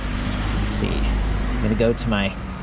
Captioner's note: bike beeping